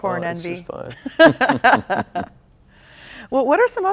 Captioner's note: both laughs